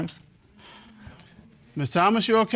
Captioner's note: exhales